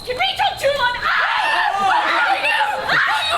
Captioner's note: Helena and Hermia screaming